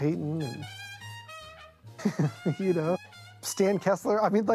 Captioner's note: laughs